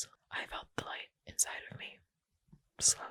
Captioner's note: none